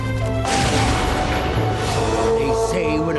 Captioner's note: thunder